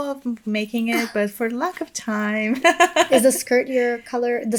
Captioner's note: chuckles